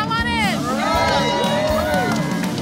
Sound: cheers

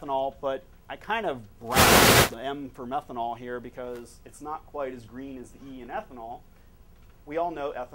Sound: static

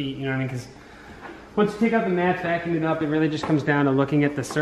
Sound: none

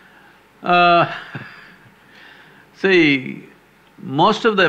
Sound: laughs

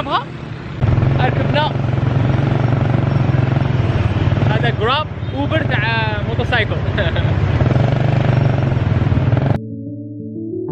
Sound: engine sound

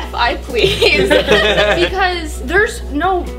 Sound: laughter

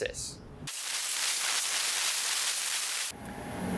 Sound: sound of water spraying

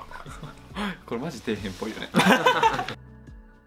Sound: laughs

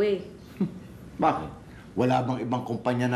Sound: scoffs

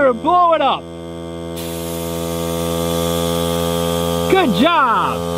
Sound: air pump buzzing

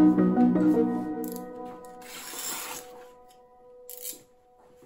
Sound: pocket knife slices through the paper and retracts

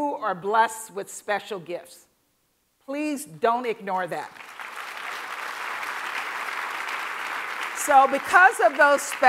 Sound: applause

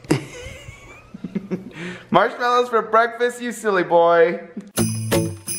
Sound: giggling; playful Christmas music

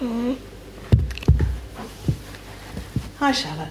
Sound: phone drops

